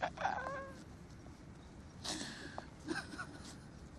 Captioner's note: gasping